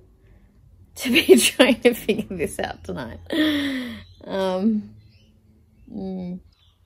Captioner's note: laughing